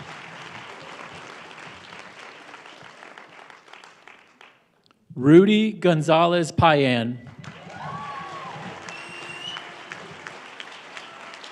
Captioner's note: applause